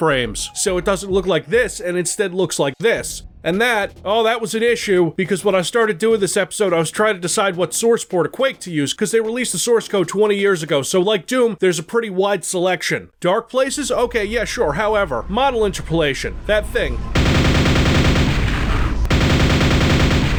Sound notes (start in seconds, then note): 16.9 nailgun Firing